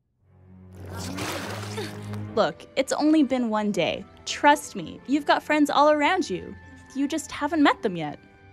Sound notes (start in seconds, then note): 1.6 Amity sighs exasperatedly